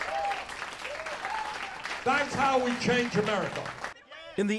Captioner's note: cheering and applause